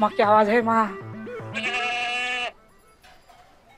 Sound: goat bleating

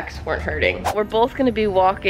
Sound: air whooshing

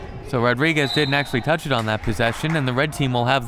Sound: whistle

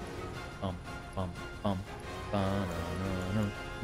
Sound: humming

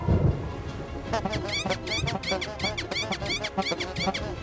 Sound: honks and squeaks

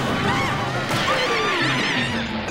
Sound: screaming

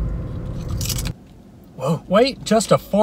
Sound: chips crunching

